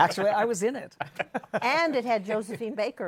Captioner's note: laughter